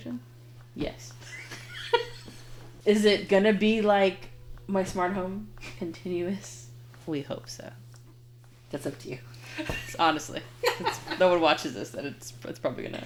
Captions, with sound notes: - Yes. (laughing) - Is it gonna be like my smart home continuous? - We hope so. - That's up to you. - Honestly. No one watches this that it's probably gonna